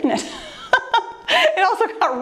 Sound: laughs

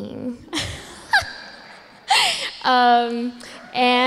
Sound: laughs

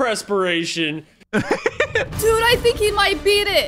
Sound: laughs

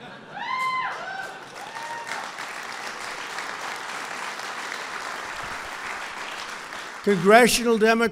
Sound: laughter and applause

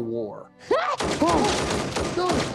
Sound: gunshots

